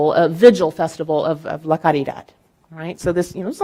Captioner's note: speaking in Spanish